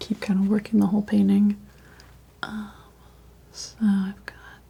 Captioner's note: scratching